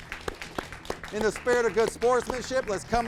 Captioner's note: crowd applauding